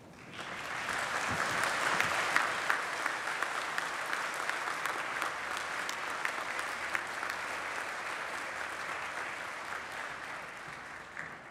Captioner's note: applause